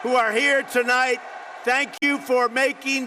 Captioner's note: applause